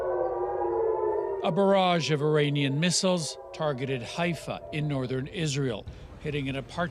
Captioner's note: sirens